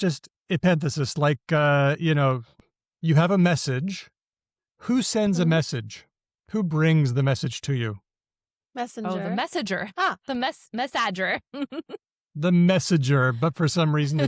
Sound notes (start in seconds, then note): 11.2 laughs